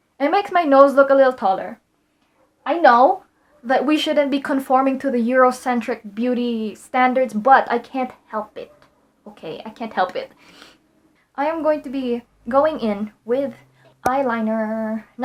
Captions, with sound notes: And it makes my nose look a little taller. I know that we shouldn't be conforming to the Eurocentric beauty standards, but I can't help it. Okay? I can't help it. :c [sniffs] - I am going to be going in with eyeliner.~ - [pop]